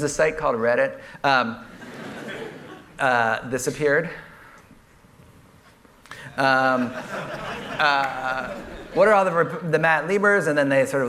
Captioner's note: laughter